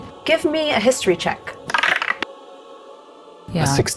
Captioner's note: die rattles